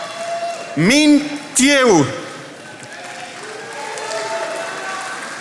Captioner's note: attendees applauding